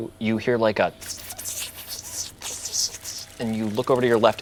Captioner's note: slurping